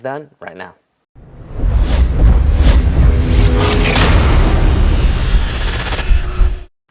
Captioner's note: sound effect